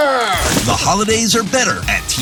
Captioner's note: tree crashing